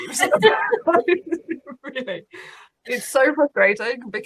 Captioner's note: laughing